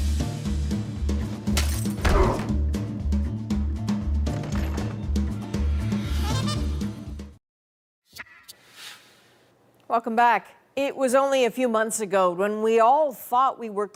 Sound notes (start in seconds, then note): 2.0 smash, man grunts